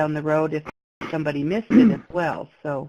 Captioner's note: clears his throat